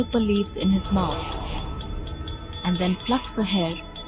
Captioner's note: bells jingling